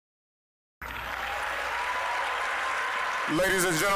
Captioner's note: applause, cheering